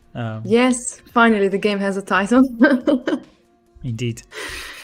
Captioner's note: laughs